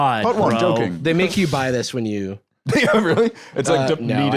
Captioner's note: laughs